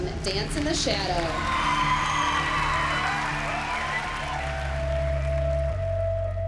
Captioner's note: cheering